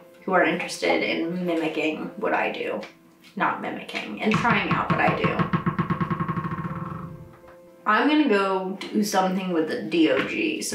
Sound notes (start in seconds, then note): 4.2 dog ball bouncing